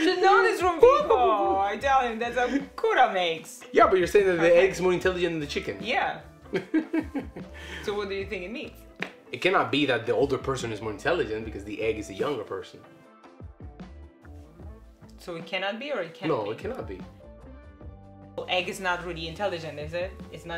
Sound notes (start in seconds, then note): 6.5 he laughs